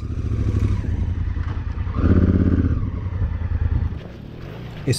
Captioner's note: engine noise